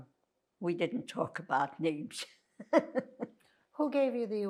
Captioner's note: laughing